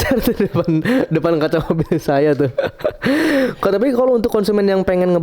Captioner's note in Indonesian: tertawa; terkesiap